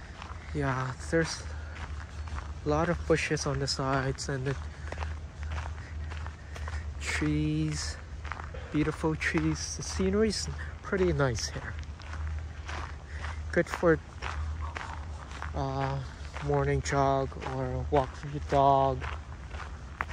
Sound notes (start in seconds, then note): 0.0 walking on gravel; 12.8 walking on gravel